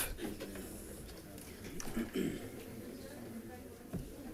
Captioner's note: background chatter